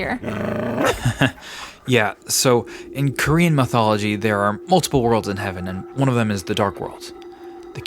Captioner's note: laughs